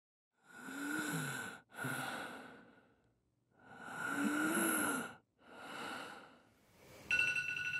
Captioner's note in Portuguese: Suspiro; Despertador